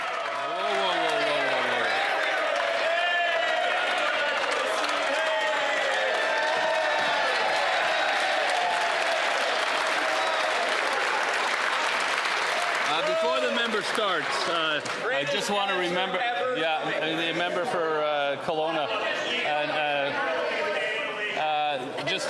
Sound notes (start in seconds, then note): 5.5 some Applause